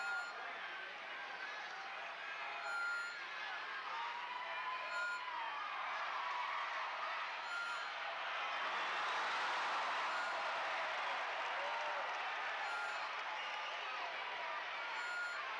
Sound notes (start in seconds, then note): 1.7 crowd chattering; 9.7 crowd cheering